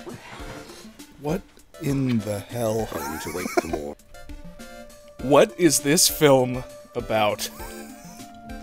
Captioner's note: wheeze